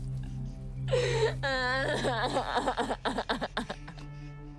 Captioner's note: sobbing; Robyn shushing